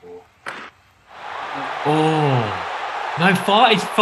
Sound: audience cheers

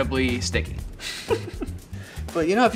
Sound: chuckling

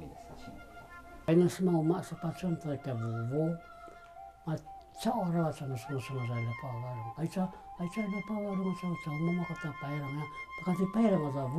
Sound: paiwan language

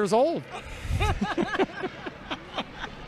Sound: laughter

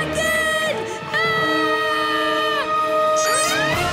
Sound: screaming

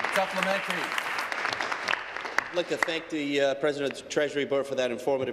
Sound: applause

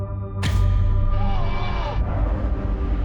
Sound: yells

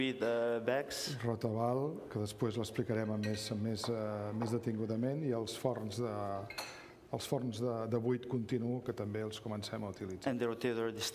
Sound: speaking catalan

